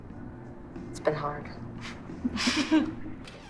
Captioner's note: both chuckle